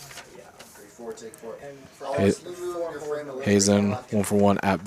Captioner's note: indistinct chatter